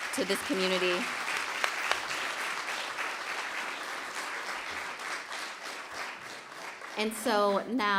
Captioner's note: applause